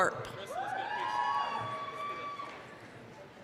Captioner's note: applause, cheering